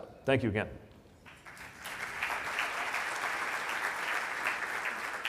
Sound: audience applauds

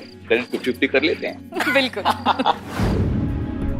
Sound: laughs

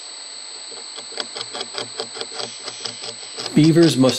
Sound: beaver chewing tree

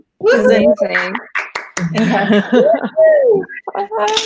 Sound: hands clapping

